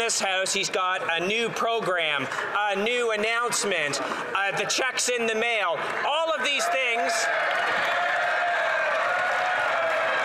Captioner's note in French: voix de l'interprète